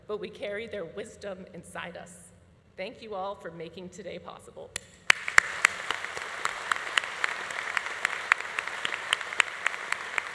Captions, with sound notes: but we carry their wisdom inside us. Thank you all for making today possible. (audience applauding)